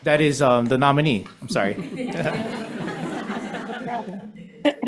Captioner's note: members laughs